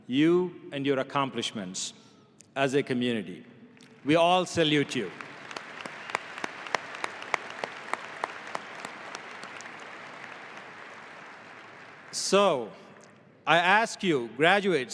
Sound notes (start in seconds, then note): 4.6 audience applauding